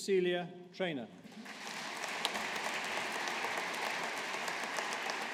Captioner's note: audience applauding